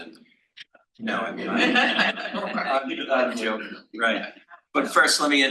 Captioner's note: attendees laughs